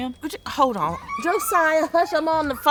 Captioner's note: child yelling